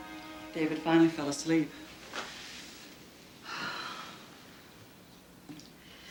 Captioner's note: sighs